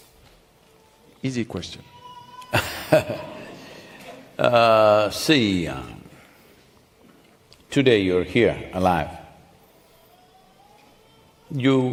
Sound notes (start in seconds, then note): 2.5 Sadhguru laughs